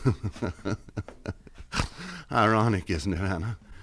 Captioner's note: chuckles